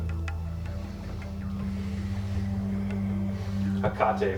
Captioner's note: sniffing